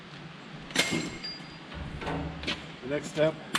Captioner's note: strap bangs